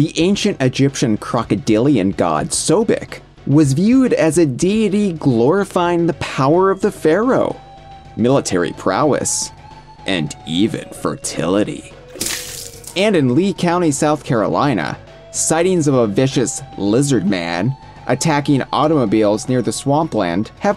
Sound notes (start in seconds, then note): 12.1 splashing noises